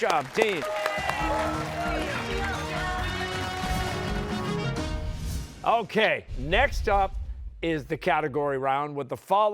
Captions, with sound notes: Incredible match-- great job, teams. (cheers and applause) Okay, next up is the category round